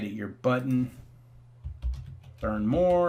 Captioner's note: keys typing